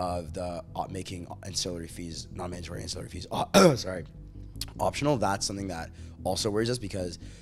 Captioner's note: coughs